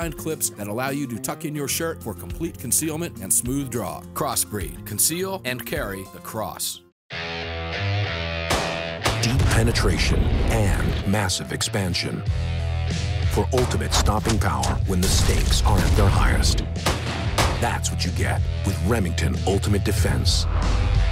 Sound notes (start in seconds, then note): 6.9 gun firing; 7.1 electric guitar strumming; 9.3 voiceover